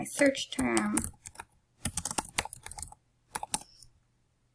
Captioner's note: typing